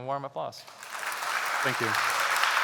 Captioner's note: applause